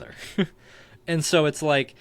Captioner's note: chuckling